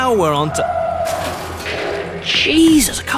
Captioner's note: car crashing; tires skidding